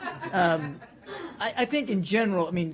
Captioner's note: laughter